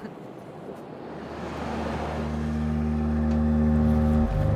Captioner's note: cars driving